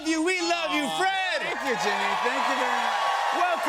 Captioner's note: cheering